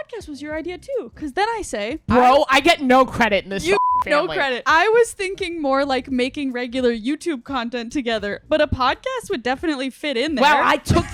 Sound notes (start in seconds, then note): 3.7 beep